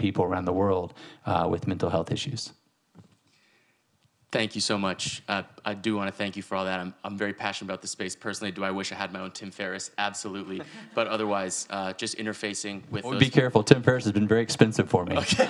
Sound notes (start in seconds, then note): 10.4 audience laughing